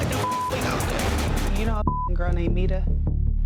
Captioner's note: beep